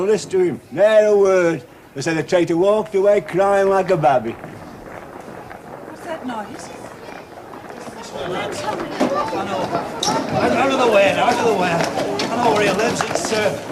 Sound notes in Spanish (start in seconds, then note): 3.9 Una multitud se acerca